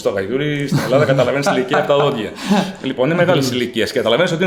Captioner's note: laughs